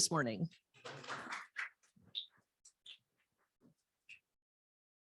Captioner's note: applause